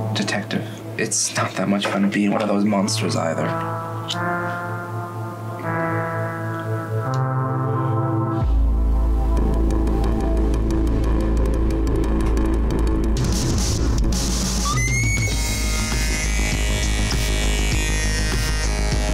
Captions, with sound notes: - Detective, it's not that much to be one of those monsters, either. (music intensifies) (woman screams)